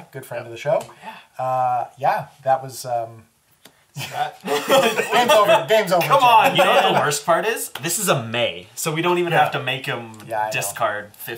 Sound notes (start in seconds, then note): 2.4 all laugh